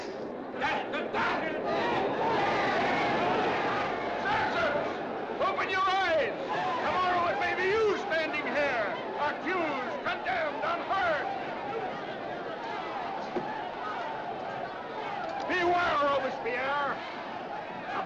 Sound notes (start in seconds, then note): 2.6 mob clamors; 12.0 mob clamors